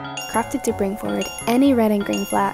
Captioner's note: bell dinging